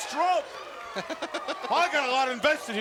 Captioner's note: laugh